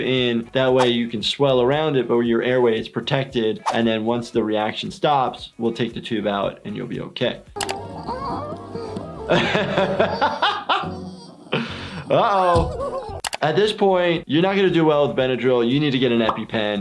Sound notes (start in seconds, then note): 7.5 Flaky whimpering; 9.4 laughing